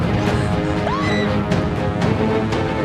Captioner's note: screaming